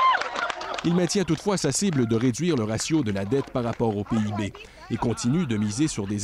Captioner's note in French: applaudissements